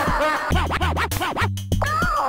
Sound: evil laugh; disc scratching

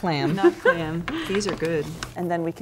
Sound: laugh

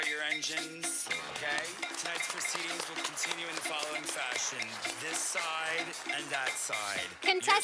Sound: sound of applause from the audience

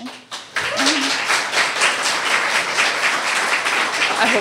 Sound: audience applauds

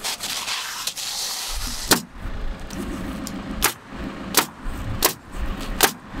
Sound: metal crunching; nail gun bangs

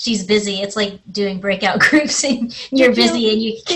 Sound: laughs

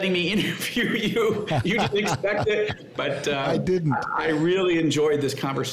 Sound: laughs

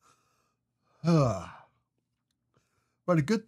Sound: sighs

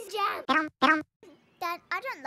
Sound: Yoshi sounds

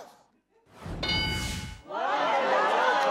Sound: ding sound

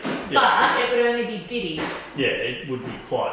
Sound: carpenter banging drowns out speaker

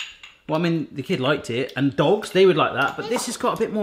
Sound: none

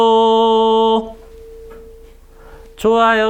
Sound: dong

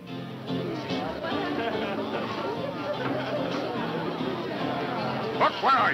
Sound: upbeat music; chattering

